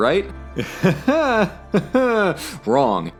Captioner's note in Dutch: lacht